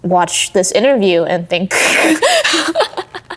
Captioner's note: laughing